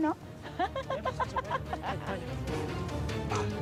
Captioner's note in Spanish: risas